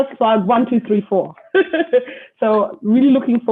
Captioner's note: laughs